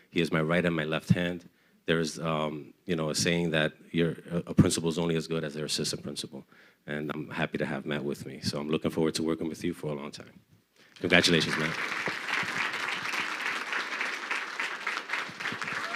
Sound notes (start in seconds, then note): 10.9 crowd clapping